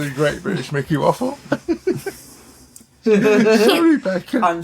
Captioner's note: laughter